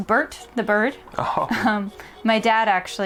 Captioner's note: Carl and Harmony chuckling